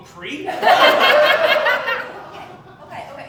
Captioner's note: laughter